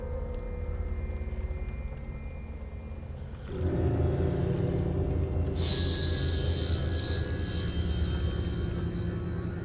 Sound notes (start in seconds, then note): 1.2 rain pattering